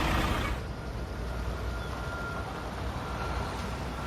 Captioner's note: engine running